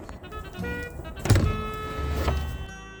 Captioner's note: door opens